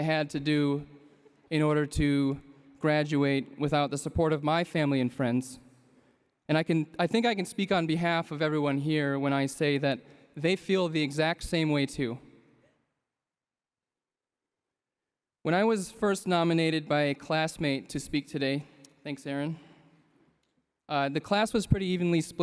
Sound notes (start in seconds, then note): none